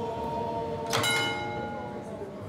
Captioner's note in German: Läuten